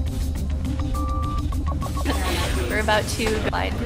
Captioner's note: beeping